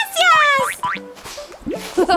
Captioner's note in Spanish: Sonido de soplido